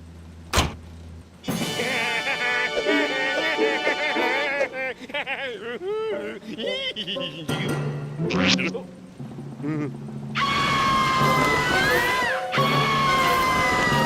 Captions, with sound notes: (taunting laughter) OH. UH... AAAH! AAAH!